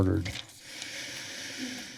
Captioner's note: sighs